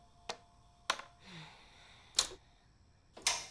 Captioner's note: Caridad suspira